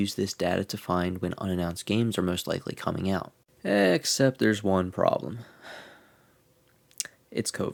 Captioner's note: sighs